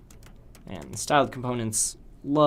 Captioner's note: typing Noises